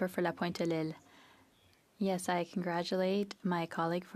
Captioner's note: speaking French